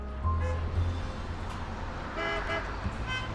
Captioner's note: horn honks